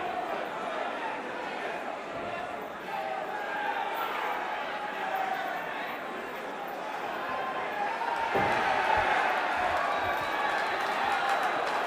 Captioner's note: crowd cheering